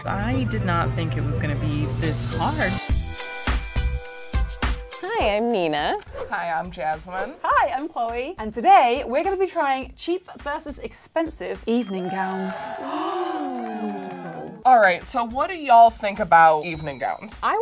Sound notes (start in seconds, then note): 2.5 upbeat music; 11.8 cheers; 12.5 girls gaps